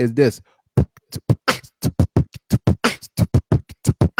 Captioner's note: beat-boxing